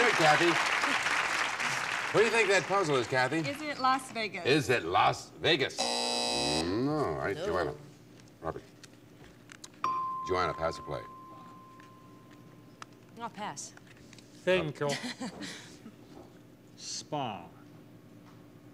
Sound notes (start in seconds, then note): 5.8 buzzer